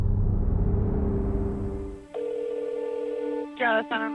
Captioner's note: phone ringing